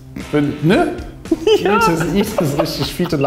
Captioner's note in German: Lachen im Off